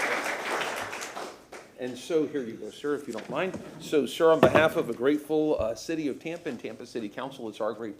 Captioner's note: applause